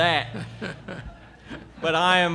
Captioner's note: laughter